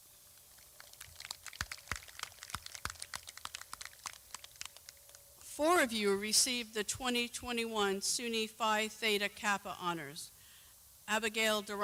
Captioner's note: clapping